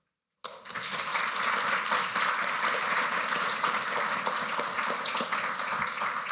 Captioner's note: applause